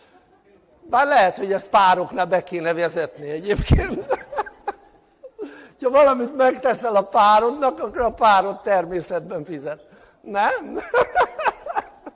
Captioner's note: laughter